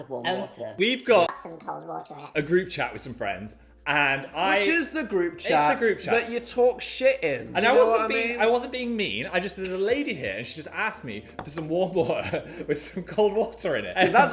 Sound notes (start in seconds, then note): 12.1 jar clinking